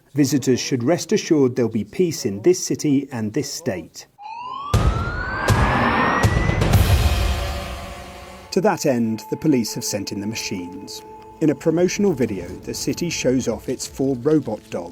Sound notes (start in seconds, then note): 4.2 siren blaring; 4.4 upbeat music